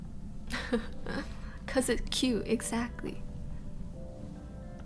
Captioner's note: she laughs